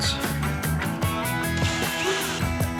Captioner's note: drill whirring